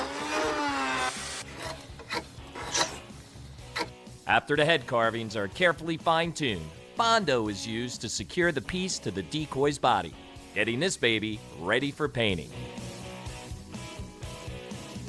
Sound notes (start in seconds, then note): 1.4 scraping; 12.3 upbeat music